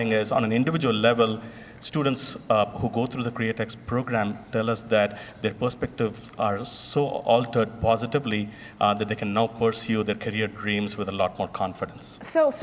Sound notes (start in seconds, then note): none